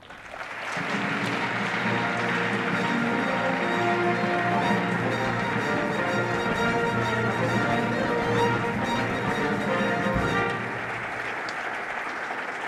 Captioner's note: applause